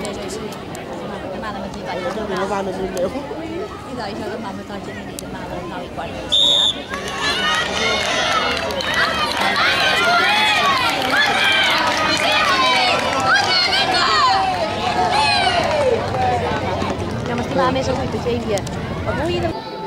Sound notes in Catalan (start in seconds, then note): 6.3 Xiulet; 6.3 La gent anima